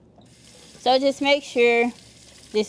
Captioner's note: water trickling